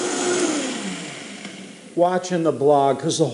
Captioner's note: blender powers down